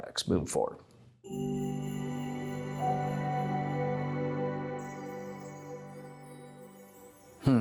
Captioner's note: chime Sound